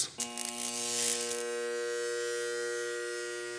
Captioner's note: light buzzing